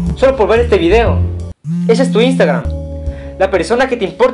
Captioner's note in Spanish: celular vibrando